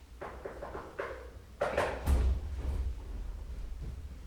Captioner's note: knocks on door